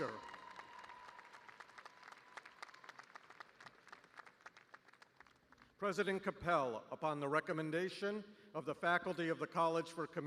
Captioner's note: cheers and applause